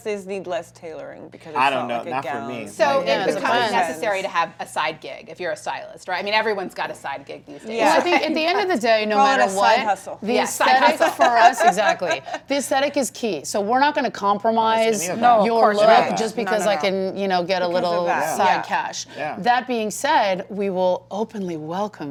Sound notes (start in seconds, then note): 9.2 laughs